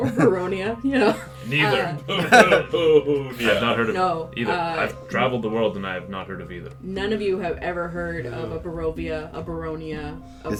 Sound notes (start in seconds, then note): 0.9 laughter; 0.9 laughs